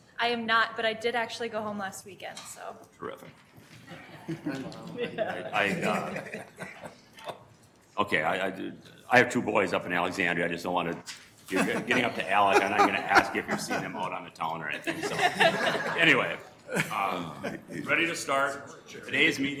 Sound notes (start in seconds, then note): 3.8 group chuckling; 14.7 group laughing